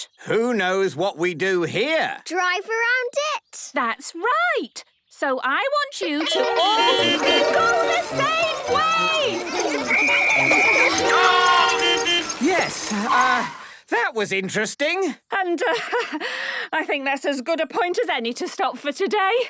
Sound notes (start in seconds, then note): 6.2 beeping; 9.8 whistle blowing; 11.8 beeping